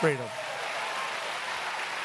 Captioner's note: applause